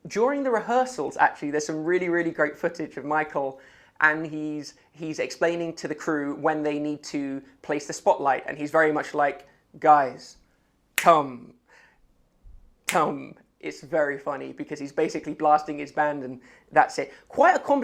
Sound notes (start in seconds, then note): 12.8 finger click